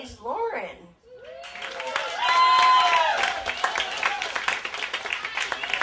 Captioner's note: applause, cheers